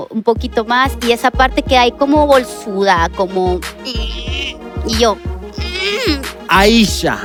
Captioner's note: angry moan